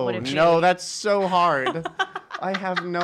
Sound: laughing

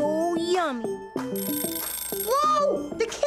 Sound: buzzer

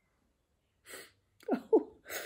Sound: sniffs

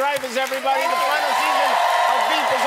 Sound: applause and cheering

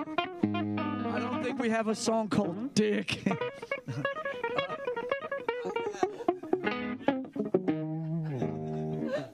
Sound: chuckles

